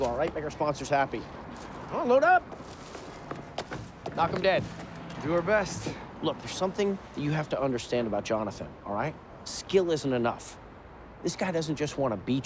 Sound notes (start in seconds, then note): none